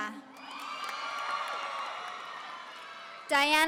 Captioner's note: audience cheering